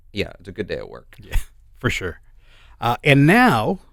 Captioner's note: chuckles